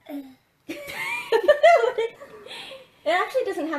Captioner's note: laughing